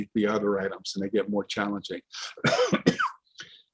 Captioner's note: coughs